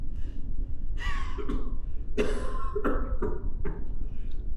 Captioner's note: coughing